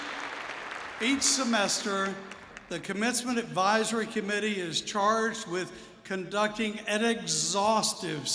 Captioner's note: alause